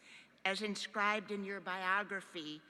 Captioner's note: none